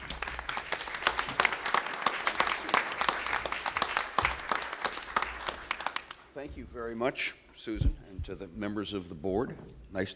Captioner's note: applause